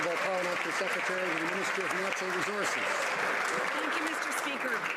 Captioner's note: some Applause